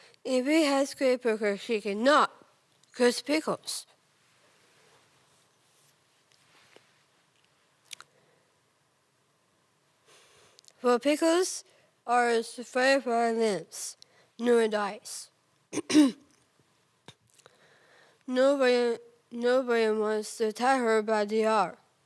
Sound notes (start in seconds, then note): 4.2 rustling; 7.6 clicking; 10.0 soft breathing; 15.8 clears throat; 17.4 soft breathing